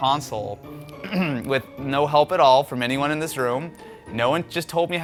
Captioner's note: coughs